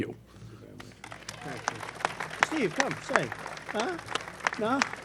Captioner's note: applause